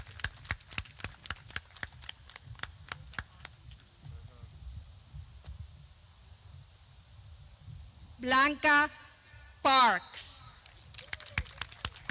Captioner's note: clapping